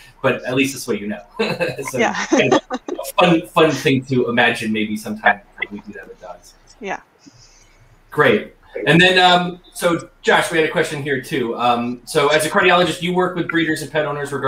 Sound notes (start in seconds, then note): 1.3 laughs